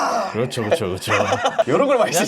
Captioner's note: laughing out loud